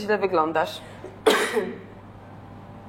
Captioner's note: coughs